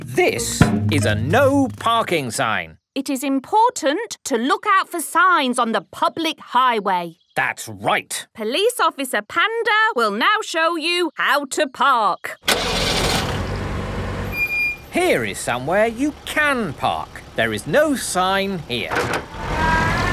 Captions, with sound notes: This is a "No Parking" sign. - It is important to look our for signs on the public highway. - That's right! - Police Officer Panda will now show you how to park. (car engine starting) - (breaks squeaking) - Here is somewhere you can park. There is no sign here.